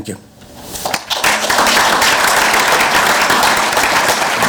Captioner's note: clapping